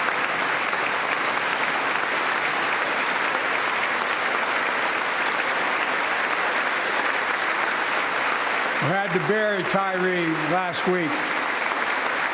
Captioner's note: applause